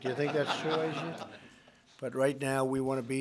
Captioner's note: laughter